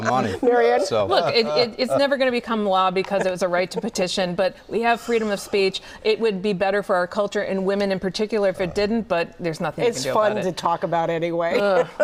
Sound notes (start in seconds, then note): 3.0 laughter